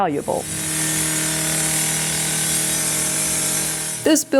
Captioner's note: saw buzzing